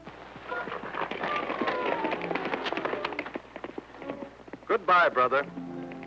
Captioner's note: hooves clattering